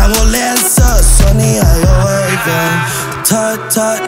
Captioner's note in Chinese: 哈哈